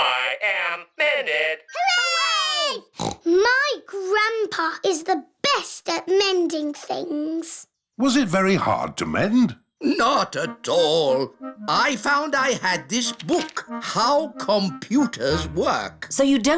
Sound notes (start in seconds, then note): 2.9 snorts